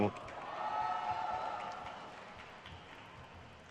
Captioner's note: crowd cheers